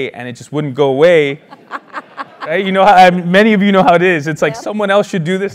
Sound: laugh

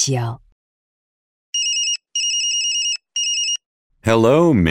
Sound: cell phone rings

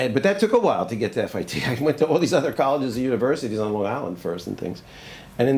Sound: laughs

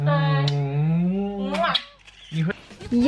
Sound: kisses

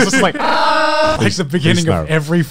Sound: yelling

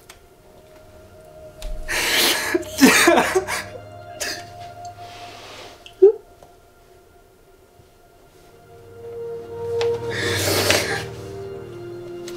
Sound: crying

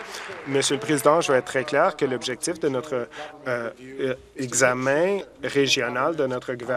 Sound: some Applause

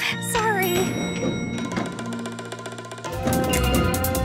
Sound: elevator dings

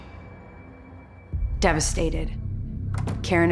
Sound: door shuts

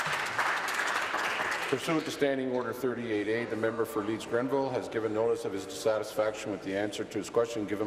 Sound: applause

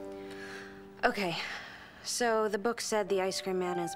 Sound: inhales deeply

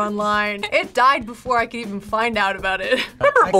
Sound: laughs

